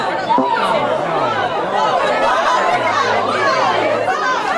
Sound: electronic tone beeping; participants exclaims; participants clamoring

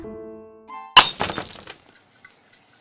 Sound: glass shatters

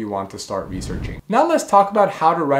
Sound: air whooshing

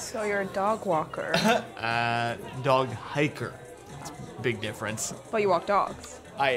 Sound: coughs

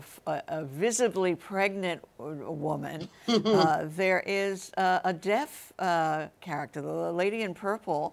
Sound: laughs

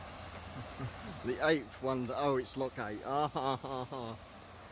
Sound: chuckling

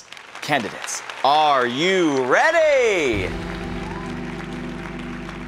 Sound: audience applauding

